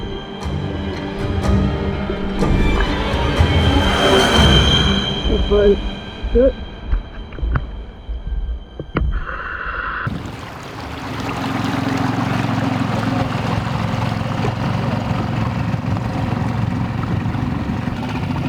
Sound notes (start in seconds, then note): 0.1 suspenseful music; 9.5 oxygen mask hums; 11.2 boat motor rumbles